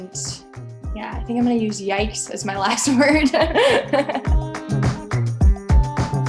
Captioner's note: laughs; upbeat music